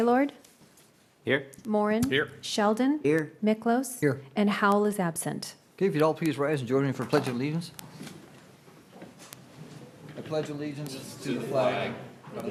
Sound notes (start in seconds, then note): 2.0 gavel pounding